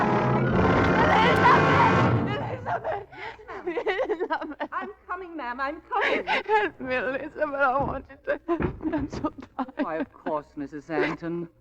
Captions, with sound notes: (engine revving) It is a man, it is a man, it is a man. I'm coming, ma'am, I'm coming. I can't, will, it's a man, I want it to happen. I'm so sorry. Why, of course, Mrs. Anton.